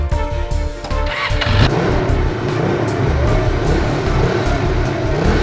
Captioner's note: engine rumbling